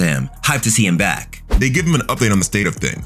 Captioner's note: air whooshing